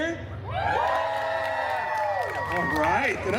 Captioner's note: guest cheering and applauding